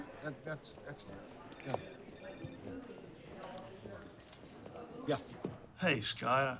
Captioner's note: phone ringing